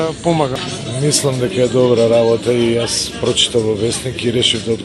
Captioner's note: speaking non-english